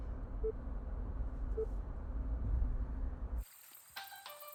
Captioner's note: phone beeping; phone ringing